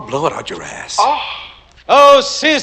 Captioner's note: gasps